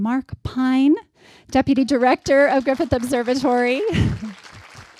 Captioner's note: applause